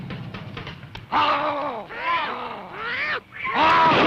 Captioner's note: grunting; gunshot